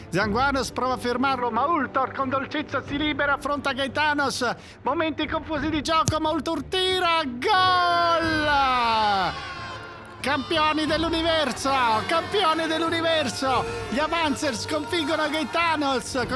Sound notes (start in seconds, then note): 8.2 everybody exulting